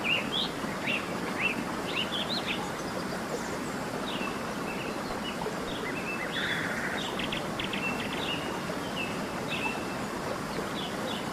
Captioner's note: barulho de chuva